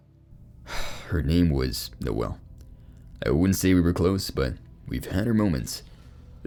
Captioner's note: sighs